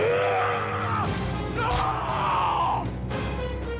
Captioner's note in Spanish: rugidos